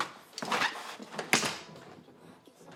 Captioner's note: door shuts